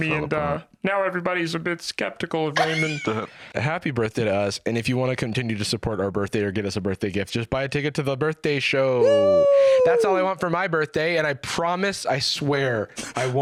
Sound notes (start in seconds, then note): 3.6 normal voice